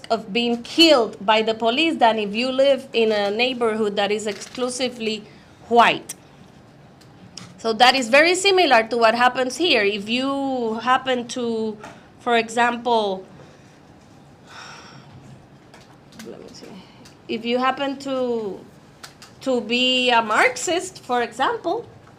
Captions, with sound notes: of being killed by the police than if you live in a neighborhood that is exclusively white. So that is very similar to what happens here. If you happen to, for example, (sighs) let me see, if you happen to be a Marxist for example,